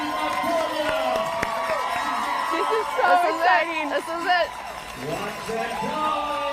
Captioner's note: cheers and applause